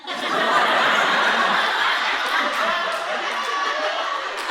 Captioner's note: audience laughing